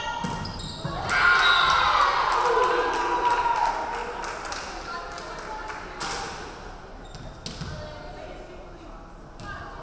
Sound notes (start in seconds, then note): 1.0 crowd cheering; 1.4 referee whistling